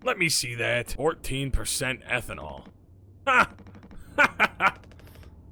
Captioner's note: laughs